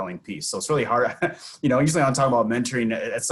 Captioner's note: laughs